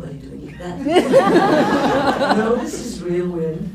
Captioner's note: laughs